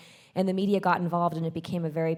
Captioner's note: none